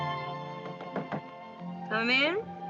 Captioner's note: knock at door